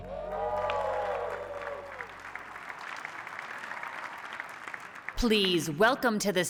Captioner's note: cheering